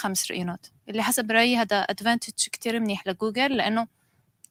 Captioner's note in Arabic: لغة أجنبية